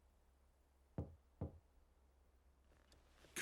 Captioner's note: knocking on door